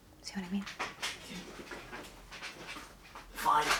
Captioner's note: bed screeching